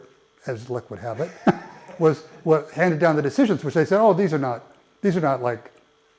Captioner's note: laugh